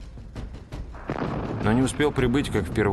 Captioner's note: sound of a cannon shot